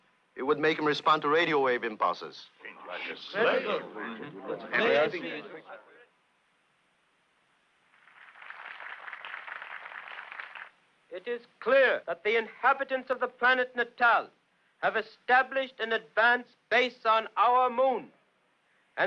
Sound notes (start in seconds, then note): 2.6 all chattering; 7.9 crowd applauding